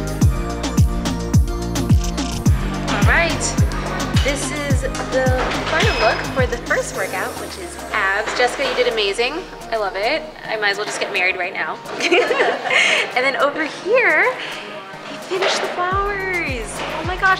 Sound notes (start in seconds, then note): 11.9 laughs